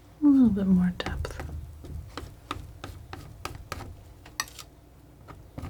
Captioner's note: scratching